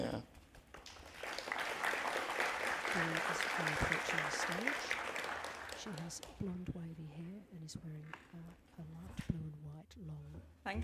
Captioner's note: applause